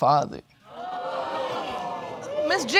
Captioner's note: audience exclaiming